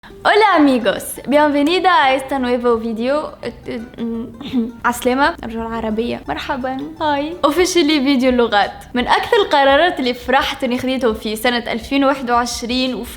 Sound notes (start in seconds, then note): 0.2 in Spanish; 3.4 stutters